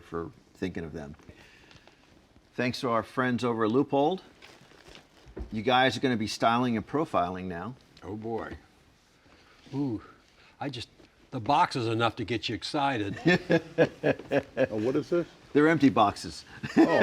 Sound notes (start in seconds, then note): 13.1 laughs